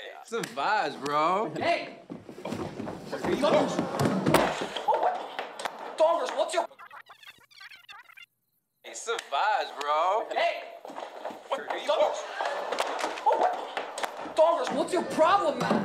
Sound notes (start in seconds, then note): 6.4 rewinding sound